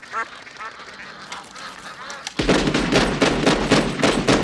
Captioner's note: quacking